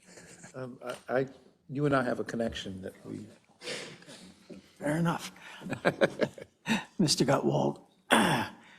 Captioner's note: laugh